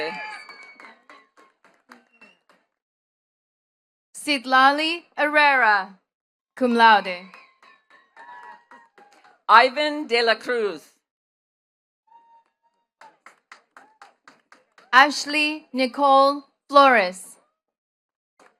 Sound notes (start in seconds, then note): 0.0 attendees cheering and clapping; 6.7 attendees cheering and clapping; 12.9 attendees clapping